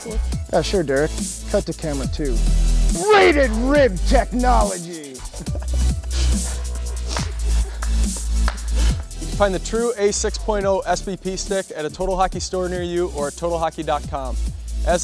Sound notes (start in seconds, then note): 5.2 laughing